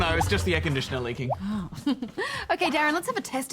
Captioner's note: laughs